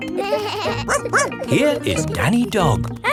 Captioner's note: both laughing; barking